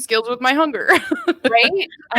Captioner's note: laughing